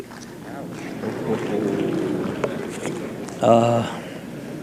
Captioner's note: audience ooh-ing